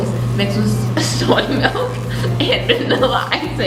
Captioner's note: voice breaking into laughter